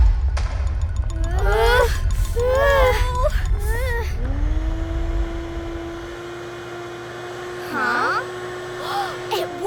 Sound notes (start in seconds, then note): 0.0 troubled music; 0.1 heavy rumbling; 1.1 princesses whimper; 4.6 vacuum whirring